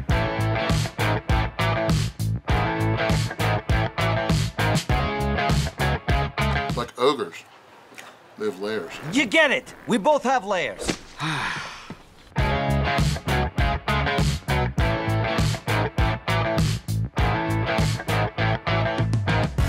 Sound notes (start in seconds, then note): 0.0 funky rock music; 11.0 sighs; 12.3 funky rock music